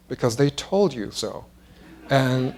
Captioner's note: laughter